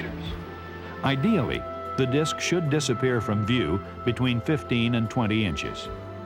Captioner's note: voiceover